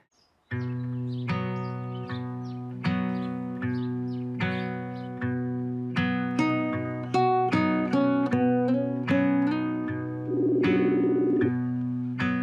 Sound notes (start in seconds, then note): 1.1 mellow guitar music; 3.1 birds chirp; 10.3 zoom video call rings